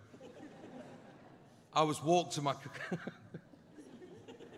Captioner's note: laughing